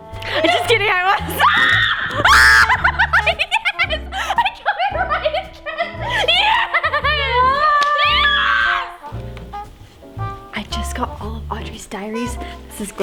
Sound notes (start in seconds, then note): 1.2 screams and laughs; 7.8 screams